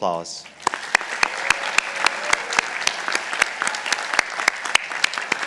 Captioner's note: participants applauding